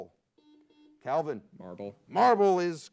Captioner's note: buzzer beeps